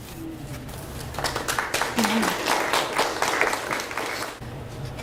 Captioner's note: audience applauds